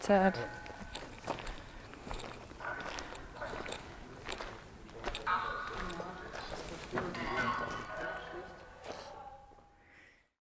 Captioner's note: footsteps in the background